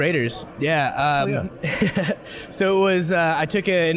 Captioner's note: chuckling